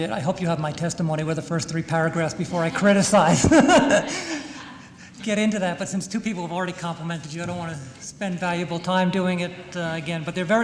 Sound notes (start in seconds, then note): 4.2 laughter